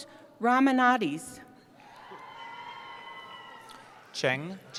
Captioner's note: cheering